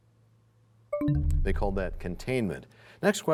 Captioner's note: bell chimes, time expires